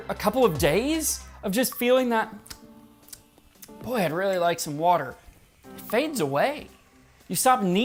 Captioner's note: smack, smack